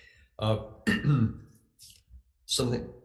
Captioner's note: throat clearing